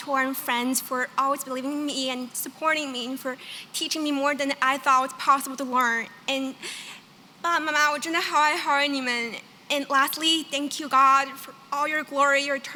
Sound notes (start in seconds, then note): 6.8 non-english